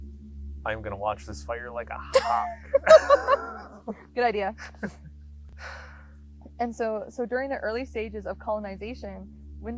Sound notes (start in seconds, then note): 1.9 both laughing